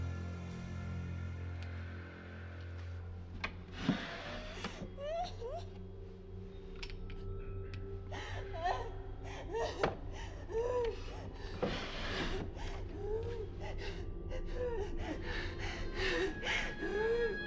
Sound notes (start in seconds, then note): 4.6 Maggie crying; 11.8 dramatic music; 14.7 Maggie crying